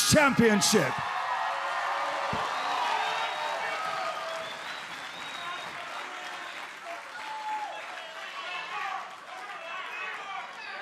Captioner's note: cheers & applause